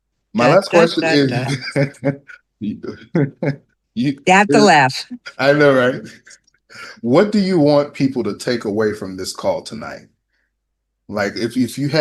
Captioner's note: laughter